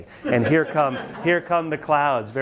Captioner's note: students laugh